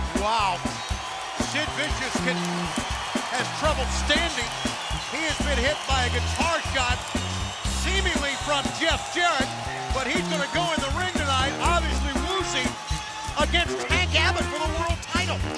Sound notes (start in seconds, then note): 0.0 upbeat funk music; 4.6 crowd cheering